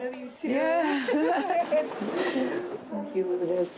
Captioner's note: laughs